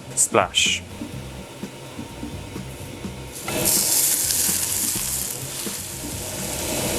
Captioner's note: sizzling